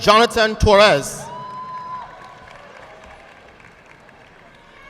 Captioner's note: audience clapping